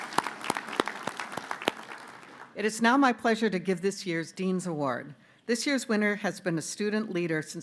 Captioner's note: applause